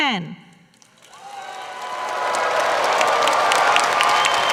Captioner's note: applause